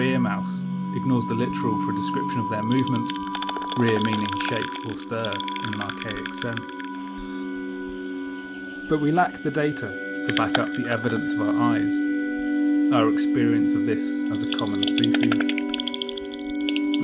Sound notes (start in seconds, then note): 10.3 bat calls click; 14.4 high pitch rapid bat calls